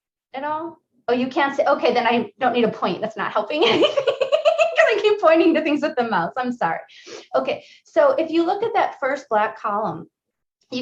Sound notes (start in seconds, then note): 3.7 laughs